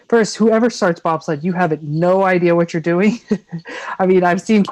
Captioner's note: laughs